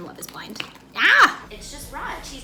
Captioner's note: groans